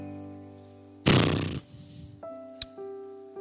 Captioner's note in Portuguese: bufada